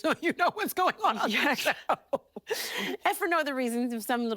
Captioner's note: laughing